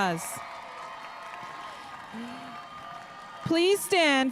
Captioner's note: spectators cheering